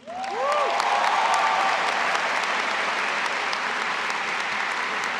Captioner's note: audience applauding and cheering